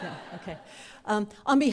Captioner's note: laughter